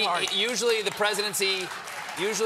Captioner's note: applause